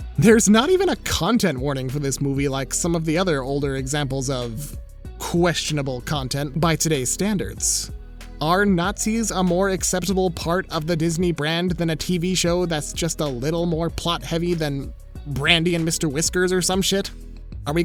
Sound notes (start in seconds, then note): none